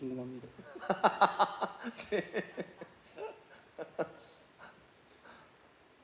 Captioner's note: laughs